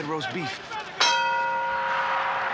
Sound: bell rings

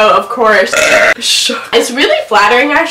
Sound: burps

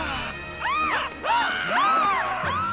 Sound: screaming

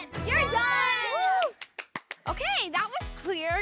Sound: cheering

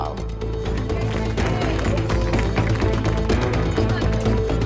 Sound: applauding

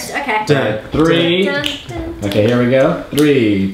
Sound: voiceover

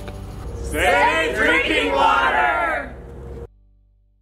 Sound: group yells

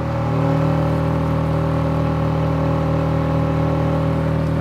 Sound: boat engine purring

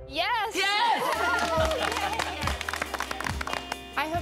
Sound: applause

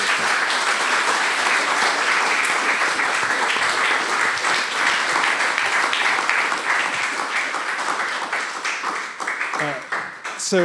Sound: clapping

